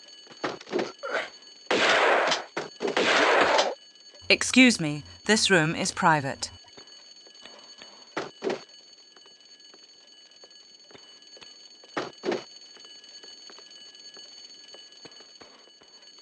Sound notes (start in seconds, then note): 1.7 bam